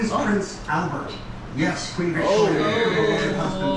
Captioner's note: collective sigh